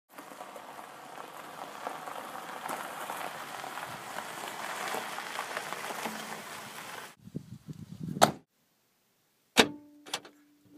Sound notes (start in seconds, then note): 0.1 car pulling up driveway; 8.2 car door closing; 9.6 trunk opening